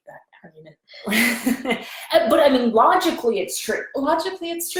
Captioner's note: laughs